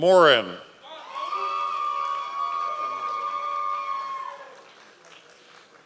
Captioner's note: members of the audience cheering